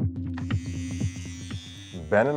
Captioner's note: soft mellow music; buzzer whirring